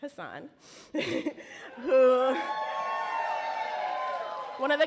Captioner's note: audience cheer